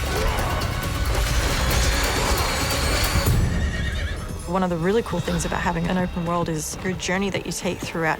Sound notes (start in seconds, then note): 0.0 grunting and yelling